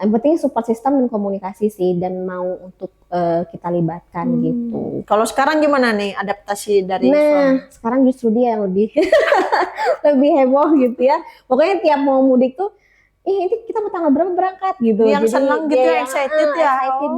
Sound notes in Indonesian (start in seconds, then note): 9.3 tertawa